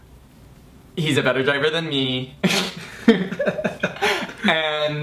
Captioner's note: laughs